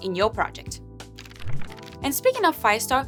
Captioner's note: fluttering